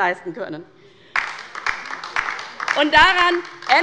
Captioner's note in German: Beifall bei der LINKEN